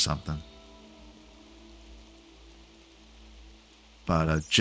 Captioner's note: silence